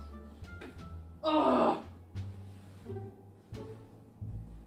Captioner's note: groans